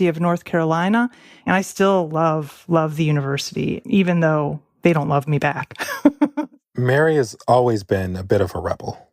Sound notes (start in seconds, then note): 5.8 laughs